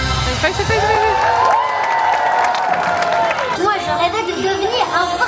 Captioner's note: audience cheering; audience applauding; Pinocchio speaking French